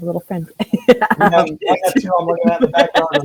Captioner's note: both laugh